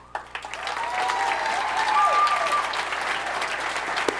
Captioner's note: audience applauding